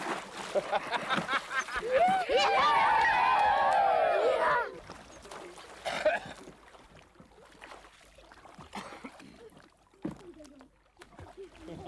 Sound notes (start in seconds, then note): 1.7 hurrahs